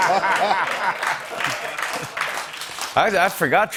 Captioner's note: laughter